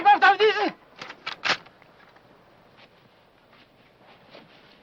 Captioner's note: speaking foreign language; gun clicking